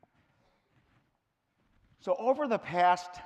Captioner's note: silent